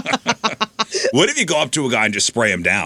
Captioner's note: laughing